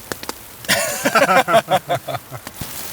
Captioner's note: both laugh